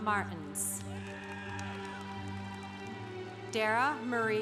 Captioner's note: congregation applauding